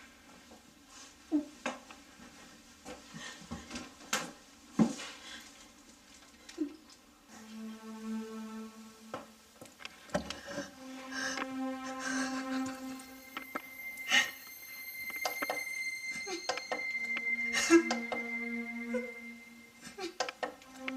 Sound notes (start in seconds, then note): 0.1 rustling sound; 7.3 dramatic music playing; 9.8 rustling; 11.7 sobbing; 12.3 dramatic music playing; 14.5 sobbing